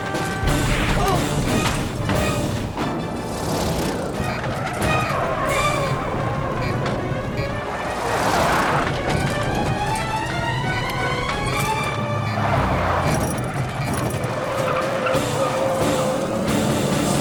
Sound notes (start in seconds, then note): 0.3 rattling; 4.5 tires screeching; 8.7 intense music playing; 14.6 tires squealing